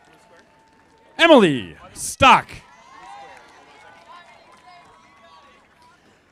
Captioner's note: audience applauding